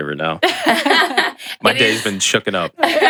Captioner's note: laugh